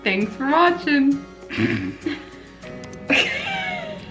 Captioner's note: laughs